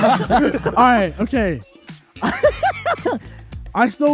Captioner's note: laughs